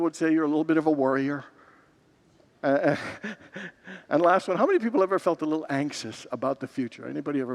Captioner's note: laughs